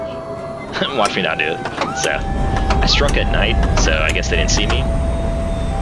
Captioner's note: laugh